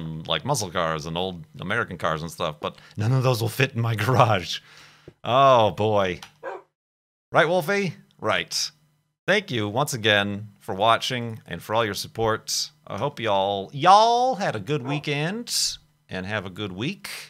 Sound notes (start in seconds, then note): 6.4 woof!